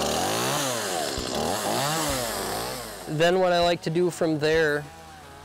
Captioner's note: motor revs up